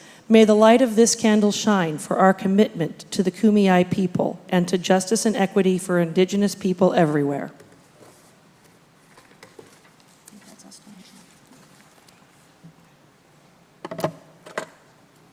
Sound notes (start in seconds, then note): none